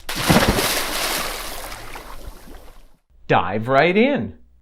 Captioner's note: water splashing